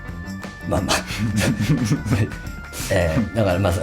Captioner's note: laughs